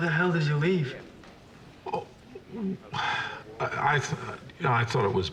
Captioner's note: sighs